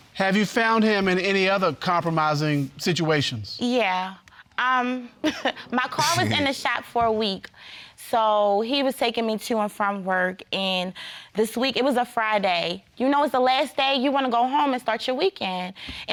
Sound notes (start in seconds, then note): 5.0 chuckles